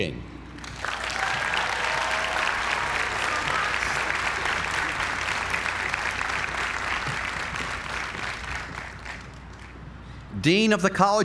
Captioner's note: applause